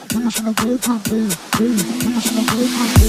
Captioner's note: high frequency